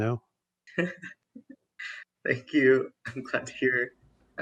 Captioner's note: chuckles